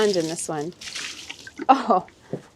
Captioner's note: liquid splashing